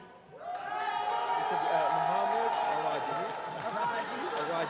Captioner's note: loud cheering